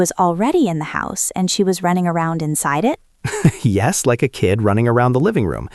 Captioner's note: laughs